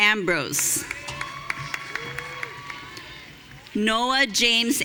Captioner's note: audience cheering